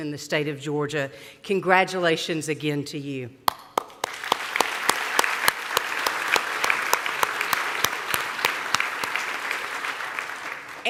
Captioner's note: applause